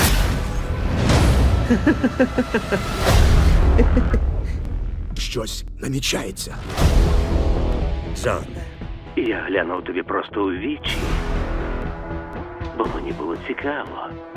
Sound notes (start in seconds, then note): 0.1 dramatic music playing; 1.6 sinister laugh